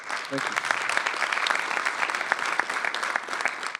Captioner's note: applause